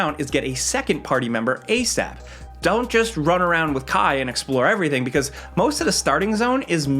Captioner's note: none